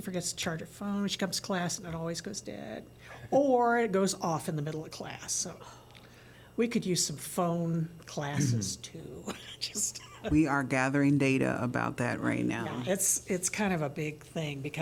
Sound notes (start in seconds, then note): 9.7 laughter